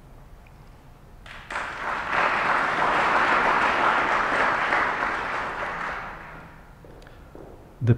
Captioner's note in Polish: oklaski